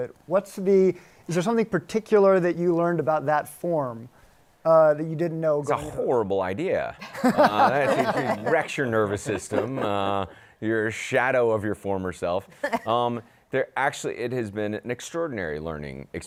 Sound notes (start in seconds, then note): 7.0 laughter